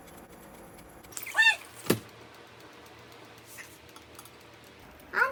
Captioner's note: sizzle sizzle crackle crackle